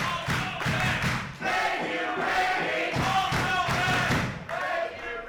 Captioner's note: clapping; clapping